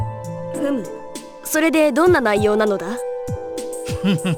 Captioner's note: acknowledging grunt; chuckle